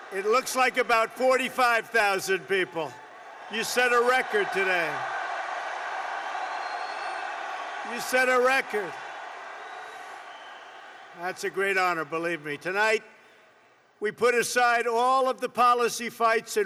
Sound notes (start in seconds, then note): 3.5 applause